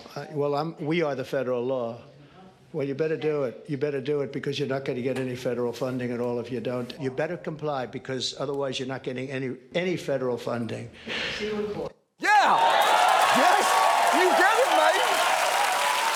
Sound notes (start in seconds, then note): 12.2 studio audience cheering; 15.2 cheering continues